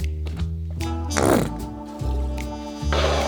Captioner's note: mustard bottle farting